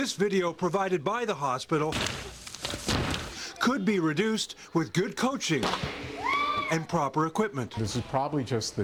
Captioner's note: shrieks